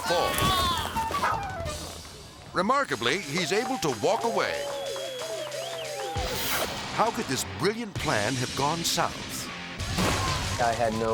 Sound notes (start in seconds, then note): 0.0 bike crashes; 0.0 screams; 4.9 onlookers cheering; 6.0 energetic rock music; 9.8 bike crashes